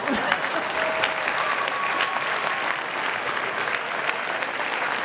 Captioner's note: applause